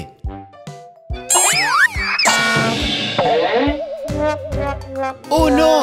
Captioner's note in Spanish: Sonido de golpes